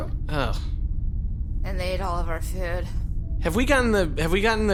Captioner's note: PLECK: groans